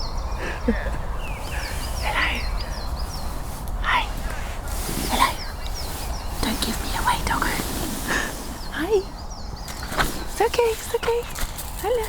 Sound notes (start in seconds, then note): 0.3 chuckling; 2.0 whispering